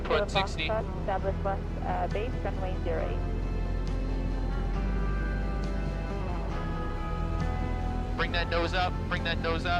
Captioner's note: controller talking over radio